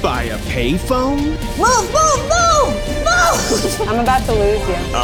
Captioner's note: shouting